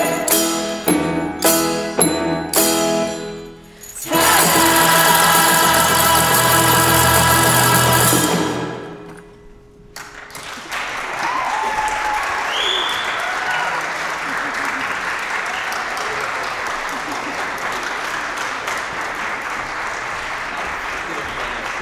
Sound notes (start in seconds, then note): 0.0 joyous percussion; 10.0 applause, cheering